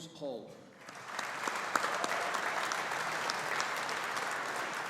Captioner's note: audience applauding